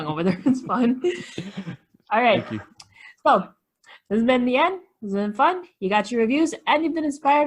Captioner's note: laughs